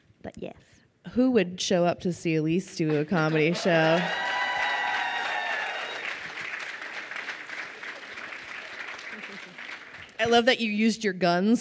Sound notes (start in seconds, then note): 2.9 crowd cheering and applauding